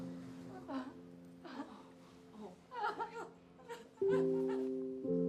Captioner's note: mom sobbing